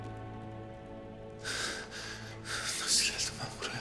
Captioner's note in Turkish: Nefes sesi